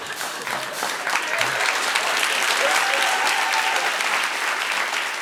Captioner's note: applause; cheers and applause